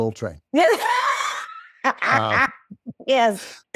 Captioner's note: laughing